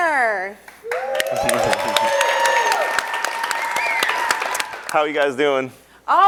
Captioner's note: audience claps and cheers